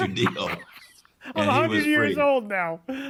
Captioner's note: laughs